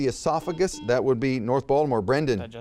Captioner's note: buzzer beeps